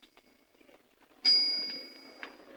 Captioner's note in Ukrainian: велосипедний дзвінок